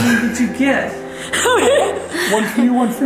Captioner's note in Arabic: ضحكات خافتة من الكريستال